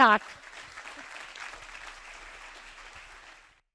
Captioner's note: audience members clapping